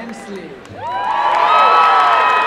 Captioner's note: cheering